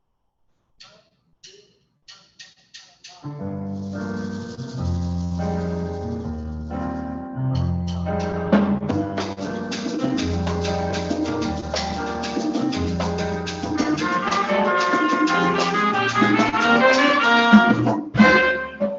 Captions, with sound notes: - One, two, ah-ah-ah-ah. (sticks tapping) (Latin jazz music)